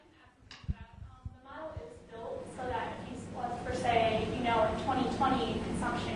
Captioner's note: woman's Voice